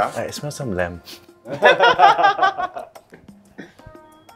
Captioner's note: all laugh